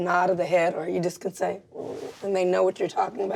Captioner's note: hums